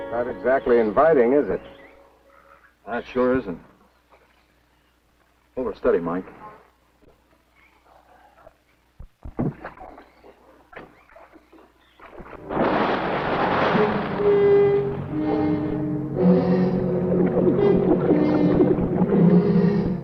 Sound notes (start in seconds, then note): 11.9 water splashing; 13.1 tense music